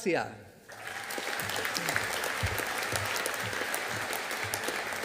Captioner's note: audience applauding